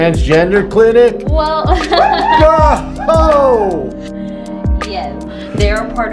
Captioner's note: chuckles